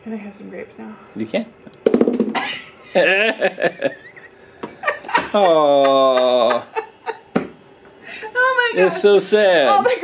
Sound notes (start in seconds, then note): 3.0 man laughs